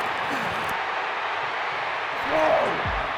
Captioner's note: crowd cheering